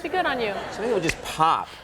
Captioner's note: audience laughing